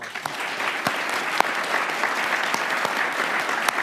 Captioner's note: crowd applauding